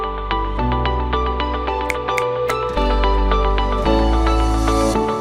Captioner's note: fingers snapping